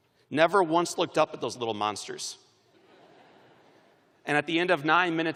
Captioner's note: laughter